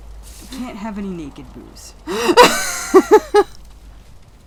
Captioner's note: laughter